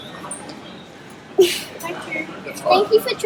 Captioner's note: huffs